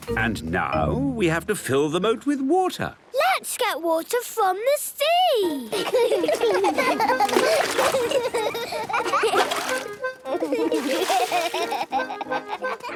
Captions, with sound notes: - And now, we have to fill the moat with water. - Let's get water from the sea! - (excited laughter)